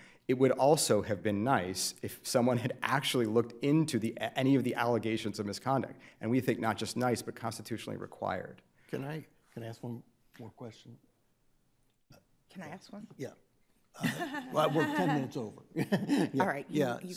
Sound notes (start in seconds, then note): 14.0 audience laughs